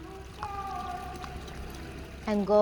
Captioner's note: water rushing